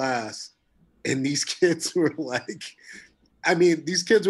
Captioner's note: chuckling